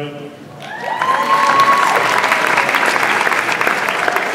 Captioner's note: audience applauds